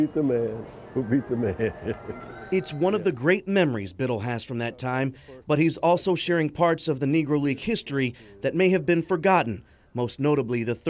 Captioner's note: laughter